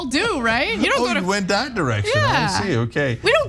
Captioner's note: laugh